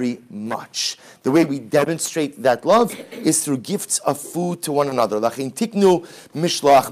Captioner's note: Hebrew